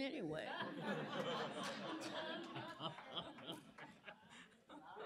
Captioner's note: audience laughing